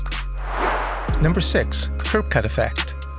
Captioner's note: whoosh